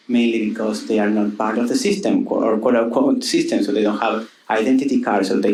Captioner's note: none